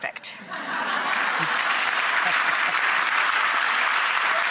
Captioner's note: audience laughs and claps